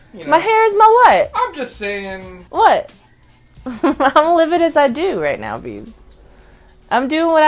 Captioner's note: laughs